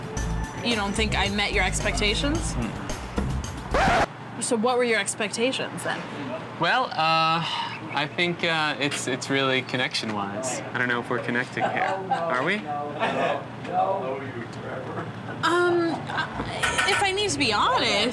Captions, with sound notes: - You don't think I met your expectations? - Uh-uh. (record scratches) - So what were your expectations then? - Well, (sighs) I think it's really connection wise. I don't know if we're connecting here, are we? - Um, if I need to be honest.